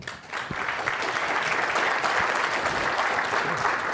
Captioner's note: clapping